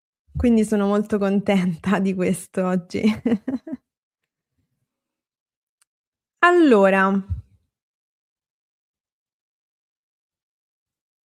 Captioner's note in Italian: risate